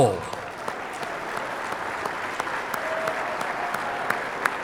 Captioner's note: audience applauding